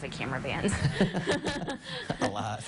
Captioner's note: laughing